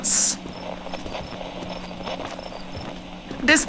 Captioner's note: walking on path fx